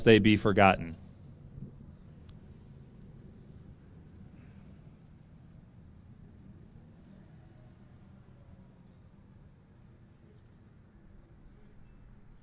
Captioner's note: silence